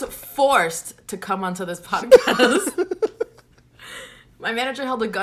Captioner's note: both laugh